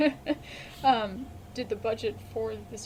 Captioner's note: BOTH laugh